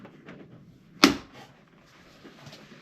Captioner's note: snap